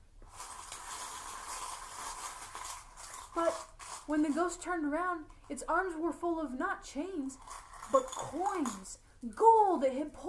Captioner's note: clinking